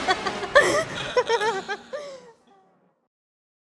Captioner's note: presenters laugh